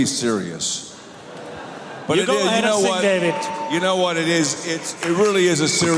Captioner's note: cheers